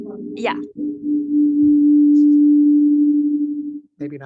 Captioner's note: mic feedback noise